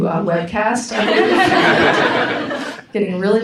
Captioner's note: audience laughs